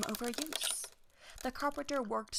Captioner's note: boats creaking